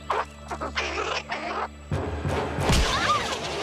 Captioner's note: chattering